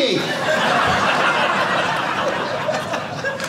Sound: audience laughing

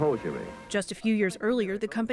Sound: voice-over

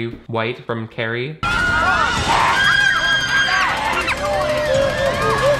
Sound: everyone screams

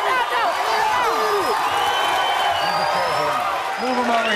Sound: audience cheers

